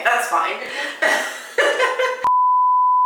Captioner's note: both laugh